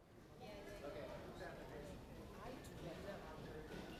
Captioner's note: people chattering